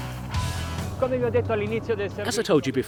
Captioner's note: speaking in foreign language